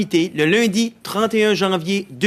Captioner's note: speaking French